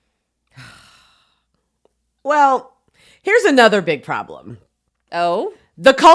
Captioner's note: heavy sigh